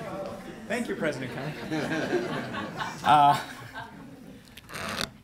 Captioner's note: laughter